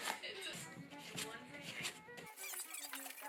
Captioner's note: more brushing sounds